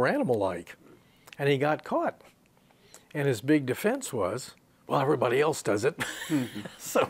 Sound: he laughs

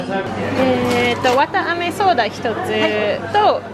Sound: speaking Japanese

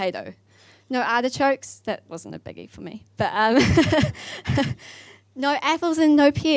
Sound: laughs

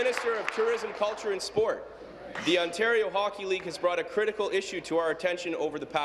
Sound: applause

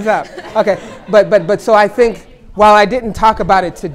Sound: laughter

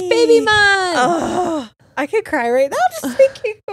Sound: groans; gasps

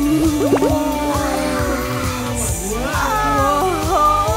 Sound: murmuring in awe

